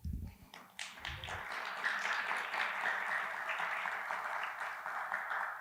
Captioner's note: applause